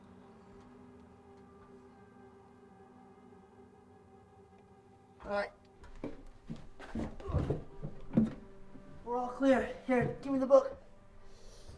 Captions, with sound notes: Alright. (Grunts) We're all clear. Here, give me the book.